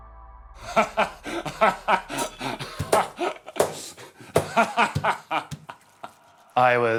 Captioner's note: maniacal laughter